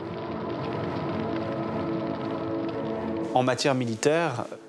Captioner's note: flames crackling